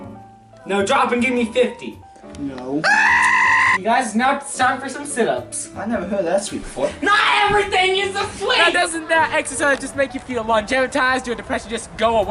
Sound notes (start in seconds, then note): 2.8 more demonic goat screams